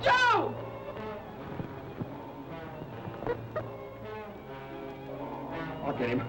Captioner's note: dramatic music; Joe chattering